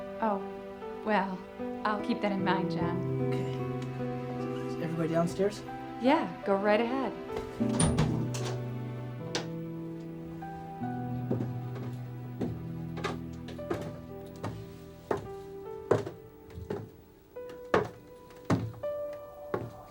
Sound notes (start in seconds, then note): 7.9 somber music continues; 10.3 footsteps thudding